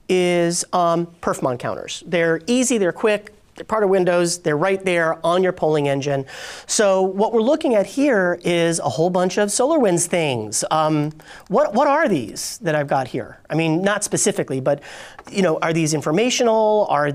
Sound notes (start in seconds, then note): none